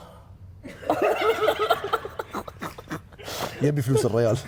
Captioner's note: all laughing